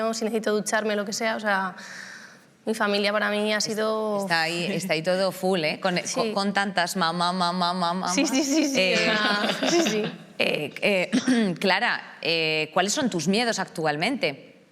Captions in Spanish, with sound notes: Si necesito ducharme o lo que sea... O sea, mi familia para mí ha sido... Está ahí todo "full". Sí. Con tantas ma, ma, ma, ma, ma. Sí, sí, sí, sí. Sí, sí. (CARRASPEA) Clara, ¿cuáles son tus miedos actualmente?